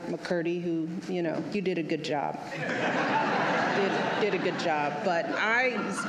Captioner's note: laughter